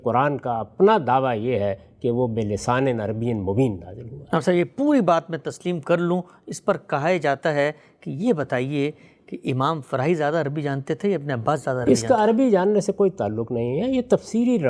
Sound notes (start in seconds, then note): 4.3 clear Arabic